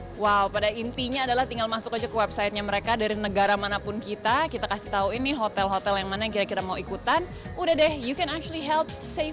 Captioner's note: non-english speech